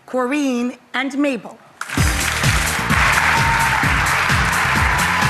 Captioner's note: audience applause